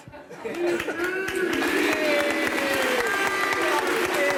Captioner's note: applause